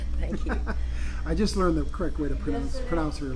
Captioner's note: laughs